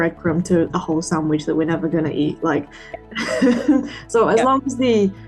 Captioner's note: chuckles